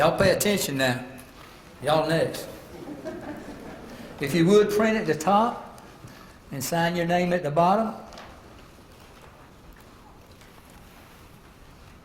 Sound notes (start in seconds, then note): 2.6 laugh